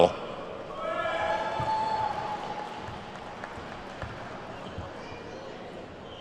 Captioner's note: attendees whooping and clapping